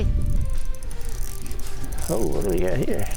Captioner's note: fishing rod whirring